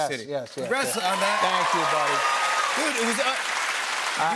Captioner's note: cheers and applause